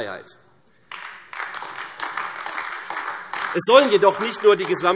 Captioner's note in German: Beifall AfD